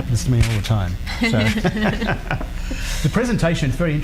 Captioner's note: laughing